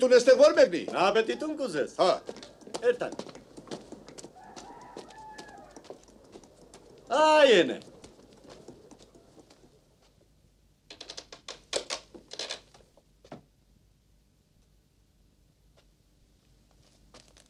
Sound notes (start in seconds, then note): 2.1 tip-tap; 11.0 crack